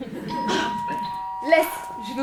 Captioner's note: doorbell